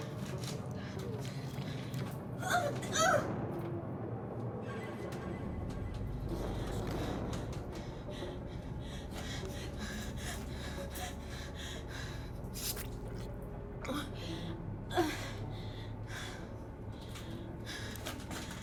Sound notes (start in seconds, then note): 7.3 Heather panting; 7.3 intense music